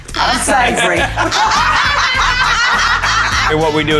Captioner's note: group laughing